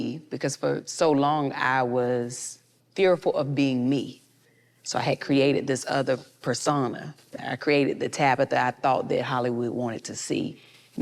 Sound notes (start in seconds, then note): none